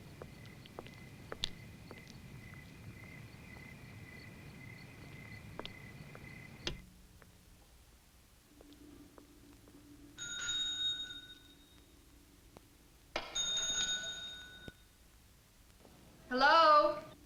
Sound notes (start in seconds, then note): 8.4 bell rings